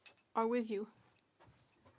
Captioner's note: speaking French